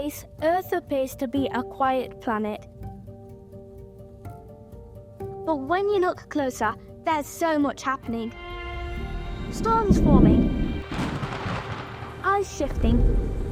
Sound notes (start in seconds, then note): 9.3 thunder rumbling; 11.1 lightning bolt cracks